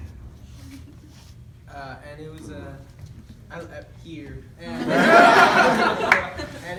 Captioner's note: laughter